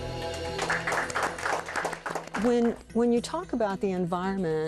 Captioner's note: applause